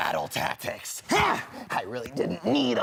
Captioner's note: grunting